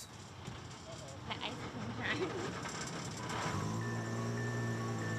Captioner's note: laughs; ice-cream truck music